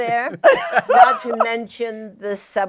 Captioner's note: laughter